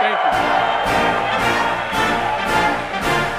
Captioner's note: applause